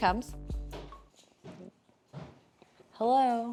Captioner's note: footsteps thumping